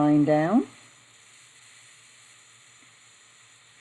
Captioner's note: silence